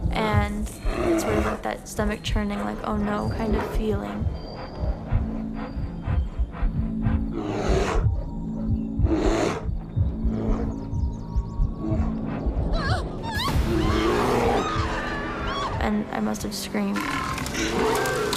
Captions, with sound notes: and just remember that stomach churning, like oh no kind of feeling. (bear growling) (woman screams) And I must have screamed.